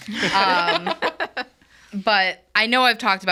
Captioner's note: hosts laugh